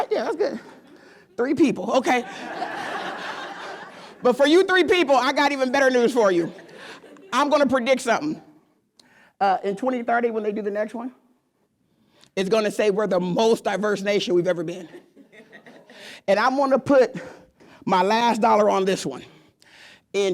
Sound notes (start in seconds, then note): 2.0 laughing